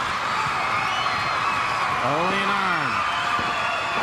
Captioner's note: crowd cheering